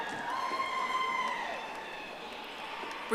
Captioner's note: audience applauding